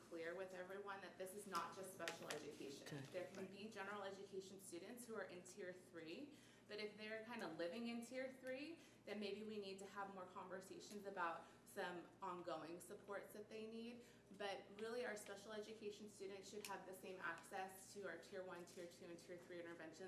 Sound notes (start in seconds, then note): none